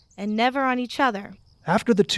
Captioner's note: Rssjen gently laughs